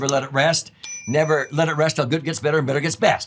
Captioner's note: bell chimes